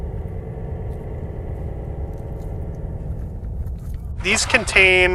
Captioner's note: wind blowing